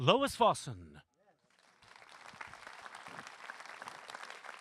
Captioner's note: applause